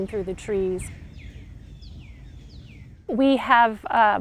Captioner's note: sounds of birds and wind